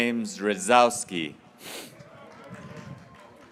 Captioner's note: graduates cheering